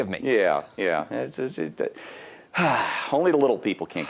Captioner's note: sighs